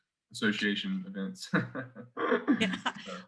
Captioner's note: chuckles